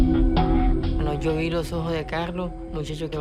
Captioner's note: Roman speaking Spanish